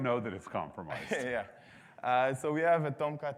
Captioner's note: laughs